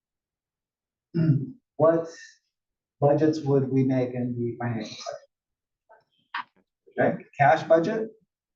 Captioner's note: cough